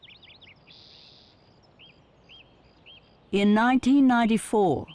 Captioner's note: birds chirping